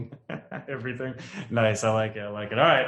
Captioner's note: laughing